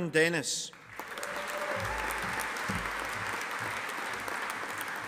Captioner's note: audience applauding